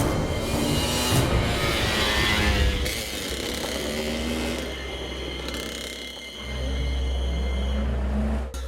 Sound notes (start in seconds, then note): 0.0 motorcycle revving